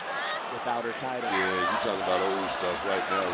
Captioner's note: audience chanting